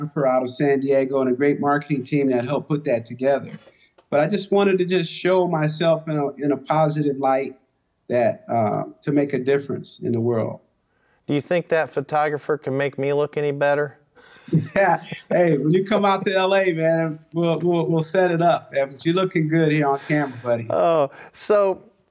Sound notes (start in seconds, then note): 14.3 laughs